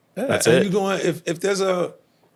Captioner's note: laughing